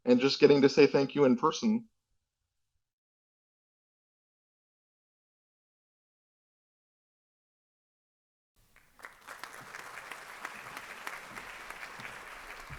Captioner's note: applause